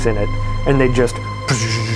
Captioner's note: buzzing